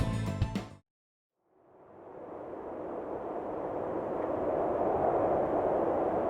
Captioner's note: wind blowing